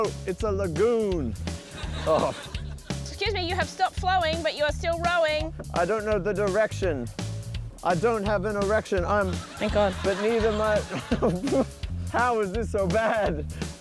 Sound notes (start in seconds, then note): 9.2 laughs